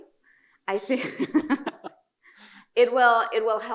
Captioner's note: laughing